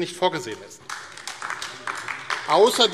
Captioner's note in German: Beifall AfD